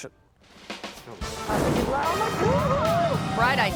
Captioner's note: fire swooshes